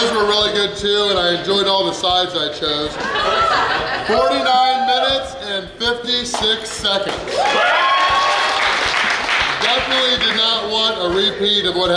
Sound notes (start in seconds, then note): 2.9 laughing; 7.3 cheering